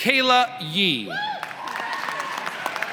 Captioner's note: applause